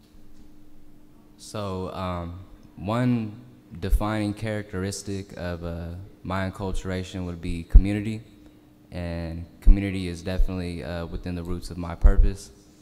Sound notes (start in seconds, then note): none